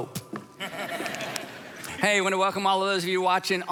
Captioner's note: congregation laughing